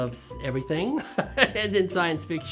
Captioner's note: laughs